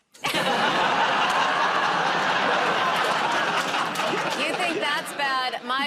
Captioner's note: laughter